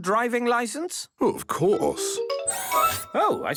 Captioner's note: mechanical arm whirring